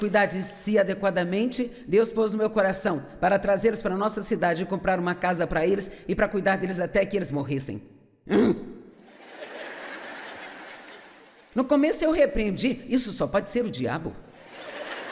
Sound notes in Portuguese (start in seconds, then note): 9.0 público rindo